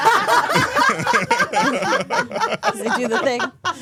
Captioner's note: all laughing